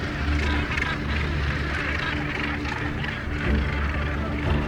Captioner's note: birds cawing